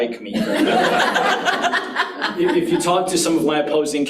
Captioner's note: audience laughs